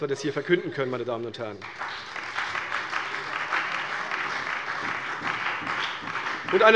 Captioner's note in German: Beifall bei der CDU und dem BÜNDNIS 90/DIE GRÜNEN